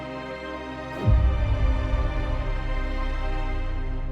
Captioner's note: boom